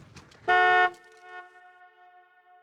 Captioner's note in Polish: klakson